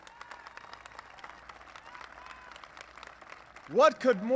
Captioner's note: applause